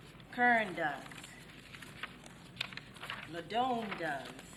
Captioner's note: paper crackling